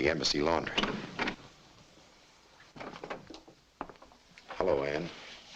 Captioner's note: door clicks open